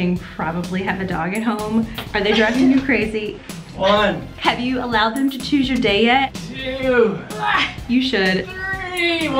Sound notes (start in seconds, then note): 7.5 grunts